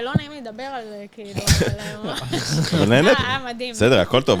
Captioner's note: laugh